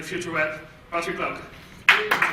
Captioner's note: applause